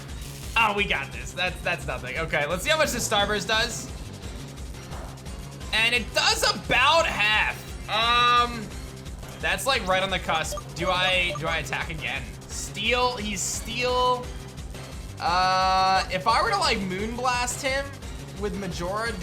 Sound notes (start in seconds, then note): none